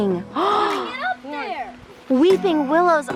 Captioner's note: gasping